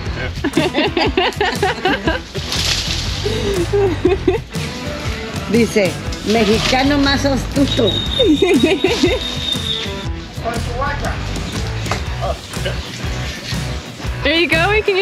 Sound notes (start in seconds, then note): 0.4 laughter; 4.9 speaking spanish; 8.3 laughter